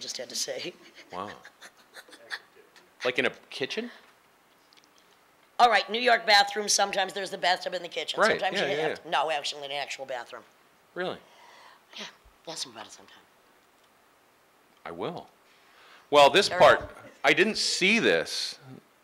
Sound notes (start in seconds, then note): 0.8 laughing